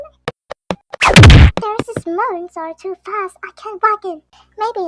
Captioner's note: whack!